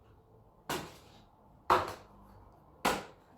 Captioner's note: slaps